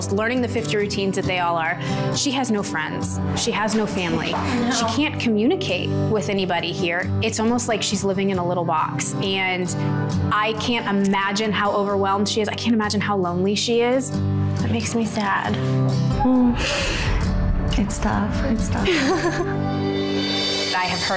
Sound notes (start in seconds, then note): 16.6 cries; 18.8 chuckles